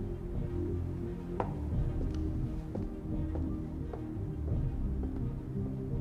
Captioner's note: tense music continues; high heels clacking